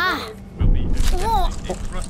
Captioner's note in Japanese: 英語のアナウンス; 揺れる音